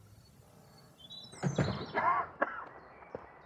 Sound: coughs

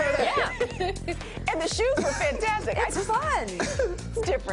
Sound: laughter

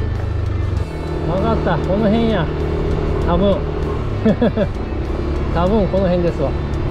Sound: laughs

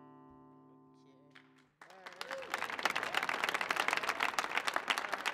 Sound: audience applauding

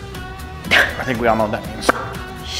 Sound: laughs

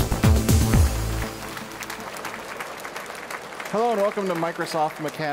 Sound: audience applauding

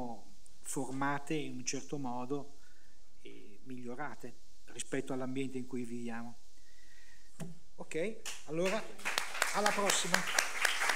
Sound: applause

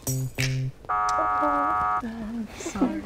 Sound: buzzer buzzes

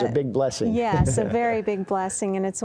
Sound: chuckling

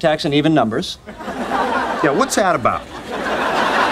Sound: audience laughing

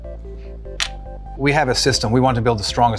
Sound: Lego drops on table

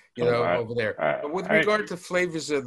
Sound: chuckles

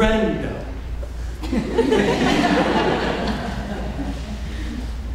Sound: audience laughing

